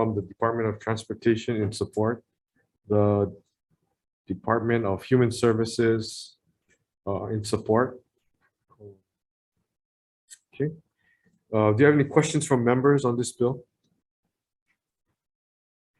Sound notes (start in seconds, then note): none